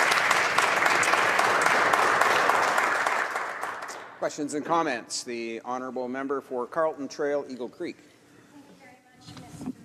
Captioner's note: applause